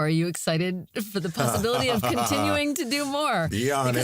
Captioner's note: laughs